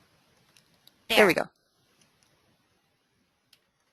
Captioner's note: voiceover